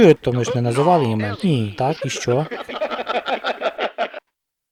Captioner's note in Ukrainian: сміється